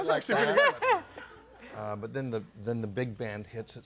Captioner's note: audience laughing